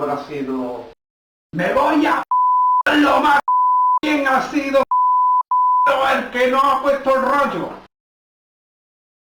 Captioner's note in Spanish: pitido